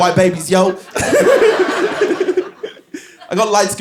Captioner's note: laughs